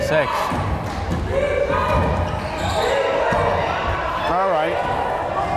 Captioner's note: crowd chanting defense